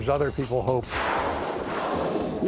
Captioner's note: air hissing